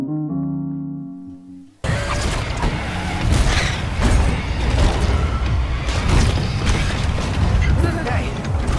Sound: violent car noises

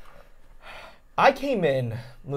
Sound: sighing

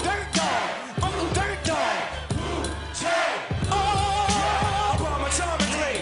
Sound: crowd chanting

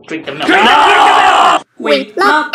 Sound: screaming

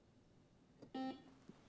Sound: buzzer beeps

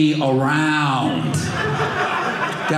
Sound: audience laughing

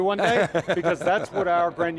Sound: laughs

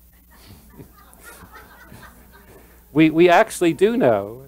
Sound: laughter

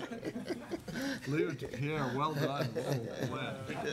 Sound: laughing

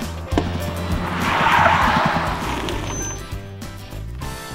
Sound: wheel blows up

